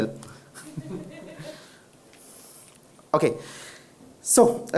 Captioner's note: audience chuckles